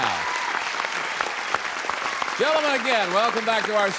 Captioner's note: applause